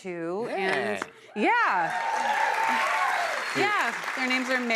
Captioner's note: cheers and applause